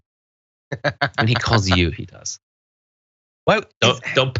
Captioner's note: laugh